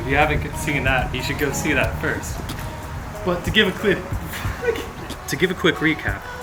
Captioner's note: unstable Flamingo Distress Noises